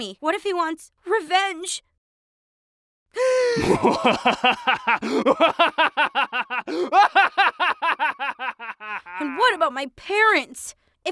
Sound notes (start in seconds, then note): 3.1 gasp; 3.5 maniacal laughing